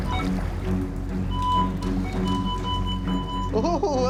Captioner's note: metal detector chirping; metal detector beeping; chuckling